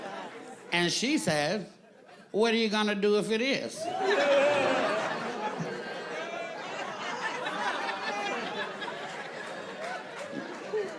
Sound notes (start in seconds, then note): 3.9 audience laughing